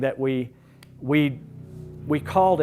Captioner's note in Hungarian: kinti motorgép zaj